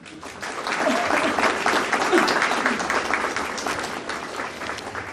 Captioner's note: audience applauding